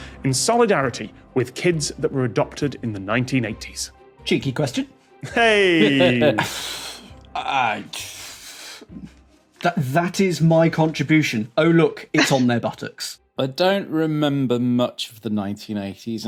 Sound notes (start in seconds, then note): 5.8 chuckles; 6.3 exhales